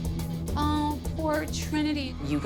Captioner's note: whiny